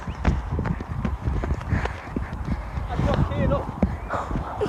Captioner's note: heavy breathing